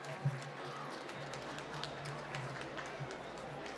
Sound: applause

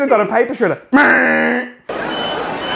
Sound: imitating paper shredder sound; crowd talking, beeping noises

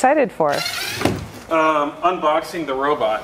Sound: electric drill whirrs

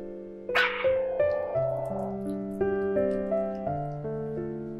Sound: Healthy growls to see the emply bowl haha

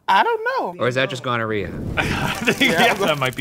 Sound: fire crackles

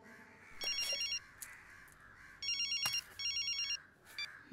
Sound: phone rings

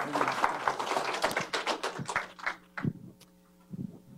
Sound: applause

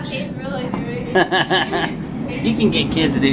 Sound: chuckling

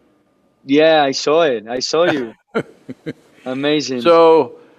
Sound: Sadhguru laughs

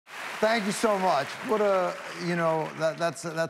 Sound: audience applauds

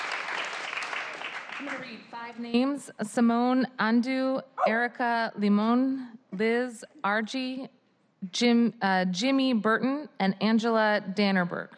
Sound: applause

